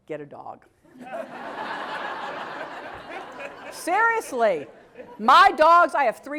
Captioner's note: laugh